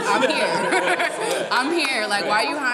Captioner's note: laughing